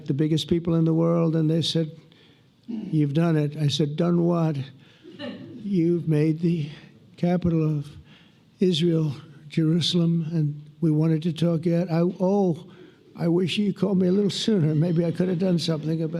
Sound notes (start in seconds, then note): 2.6 laughter